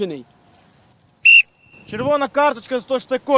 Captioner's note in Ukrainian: звук свистка